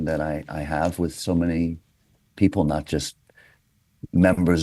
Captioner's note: none